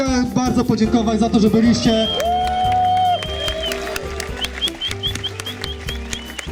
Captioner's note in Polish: Aplauz